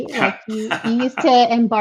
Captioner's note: laughing